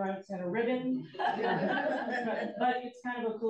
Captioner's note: audience laughs